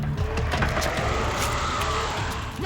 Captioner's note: vampire roars